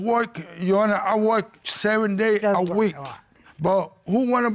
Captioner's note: mumbles